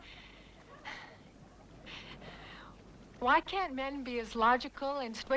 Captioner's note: sighs